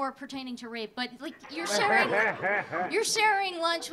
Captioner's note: audience laughing